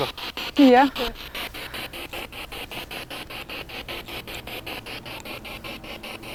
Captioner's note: noise of the spiritbox in the background